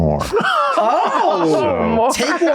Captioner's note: laughing